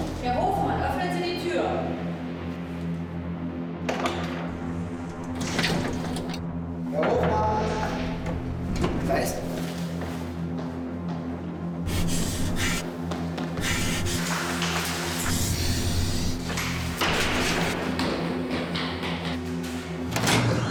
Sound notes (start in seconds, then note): 5.0 metallic sounds; 9.5 footsteps; 12.1 Jan breathing; 16.6 metallic doors opening